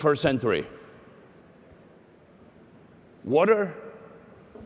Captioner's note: none